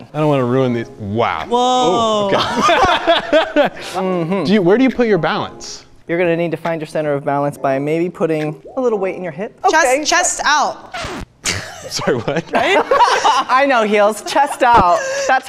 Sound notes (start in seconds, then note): 2.3 laughs loudly; 10.8 record scratch; 11.4 laughs